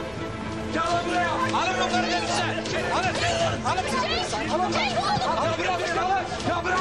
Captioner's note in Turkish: Bağırışlar